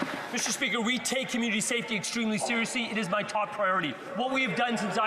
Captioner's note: some Applause